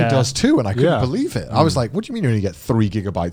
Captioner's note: all laughing